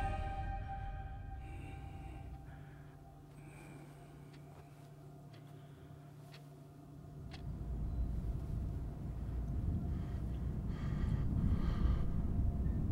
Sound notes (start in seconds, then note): 4.1 clock ticking; 9.7 breathe